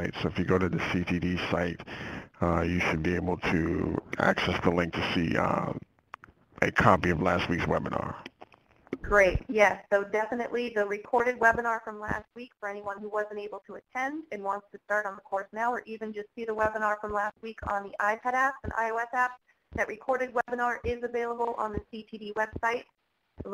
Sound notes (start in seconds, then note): 8.9 voiceover